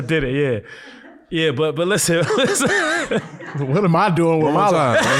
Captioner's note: laughs